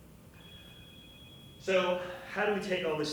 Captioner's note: phone ringing